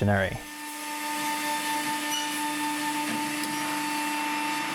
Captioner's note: machine whirring